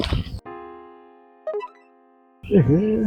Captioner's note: notification